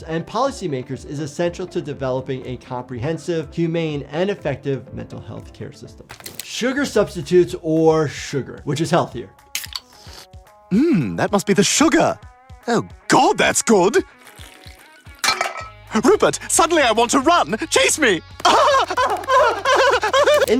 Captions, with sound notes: and policymakers is essential to developing a comprehensive, humane and effective mental health care system. Sugar substitutes or sugar, which is healthier? - Mm, that must be the sugar. Oh God, that's good. (can clanks) Rupert, suddenly I want to run, chase me. (laughing)